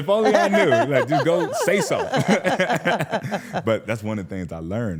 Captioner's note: laughs